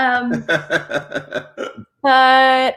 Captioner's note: laughs